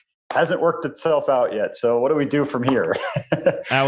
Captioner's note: laughs